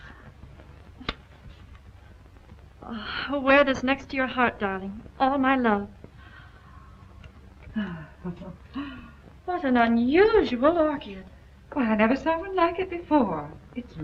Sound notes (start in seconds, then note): 2.8 sighs; 7.9 laughs